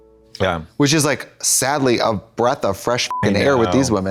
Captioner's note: beep